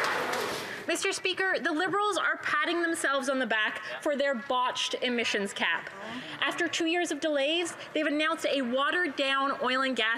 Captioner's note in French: voix de l'interprète